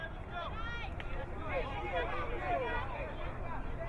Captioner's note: crowd muttering